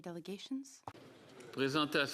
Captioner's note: speaking French